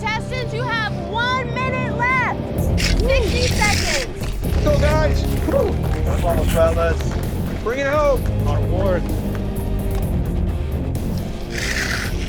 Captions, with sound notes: - Contestants, you have one minute left! 60 seconds. (dramatic rock music) - Let's go, guys! Bring it home!